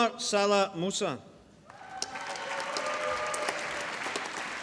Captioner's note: applause